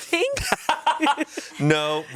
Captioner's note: laughs